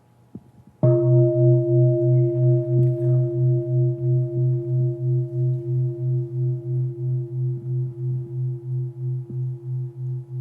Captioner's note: bell